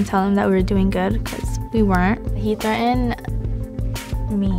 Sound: none

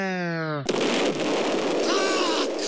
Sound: boom

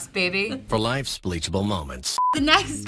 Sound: male Voice

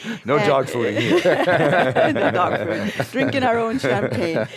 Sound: laughs

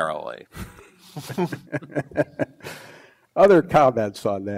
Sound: panel laughs

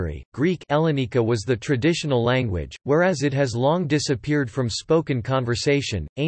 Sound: ελληνικά

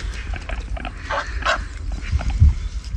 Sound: quack quack

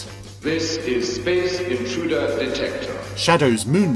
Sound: electronic Voice

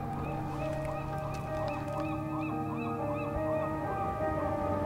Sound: birds squawking

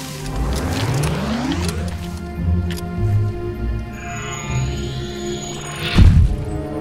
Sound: gun powers up

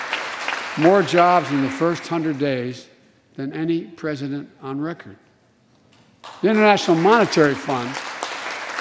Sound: applause

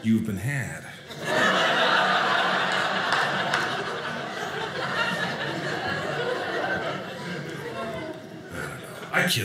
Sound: audience laughing

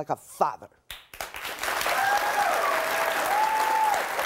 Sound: audience applauds

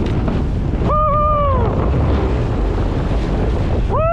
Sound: screaming

